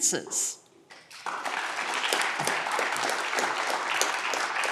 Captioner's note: audience clapping